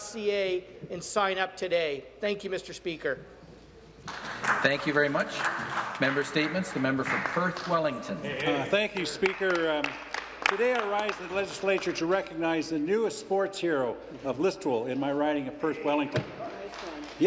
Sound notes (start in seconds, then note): 6.4 some Applause; 13.7 some Applause